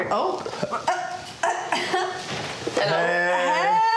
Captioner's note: giggles